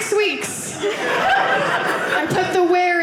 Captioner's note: audience laughing